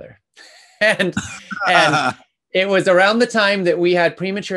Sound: Daniel laughing

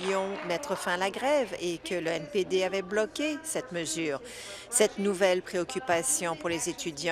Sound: applause

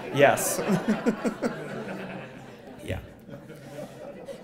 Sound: laugh

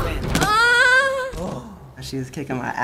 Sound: sighs in relief

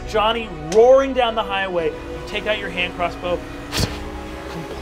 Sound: whooshes

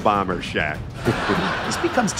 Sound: laughter

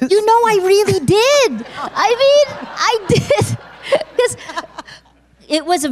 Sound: laughter

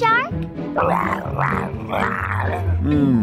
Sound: shark grumbles

